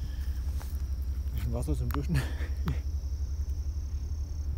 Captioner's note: laughs